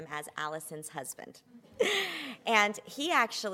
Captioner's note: laughter